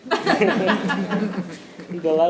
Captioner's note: audience laughing